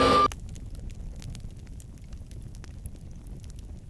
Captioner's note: fire crackles